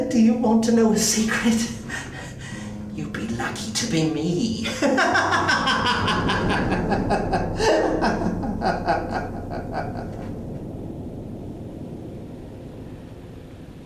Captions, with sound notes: Do you want to know a secret, you'd be lucky to be me. (man laughs)